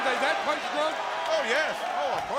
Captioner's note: crowd cheering